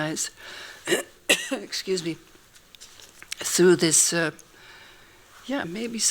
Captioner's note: clears throat